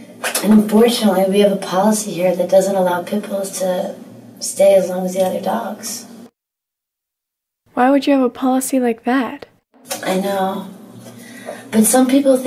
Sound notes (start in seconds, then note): none